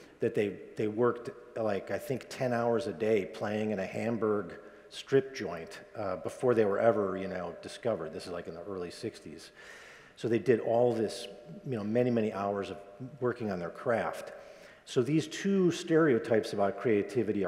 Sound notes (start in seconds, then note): none